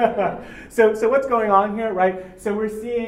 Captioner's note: laugh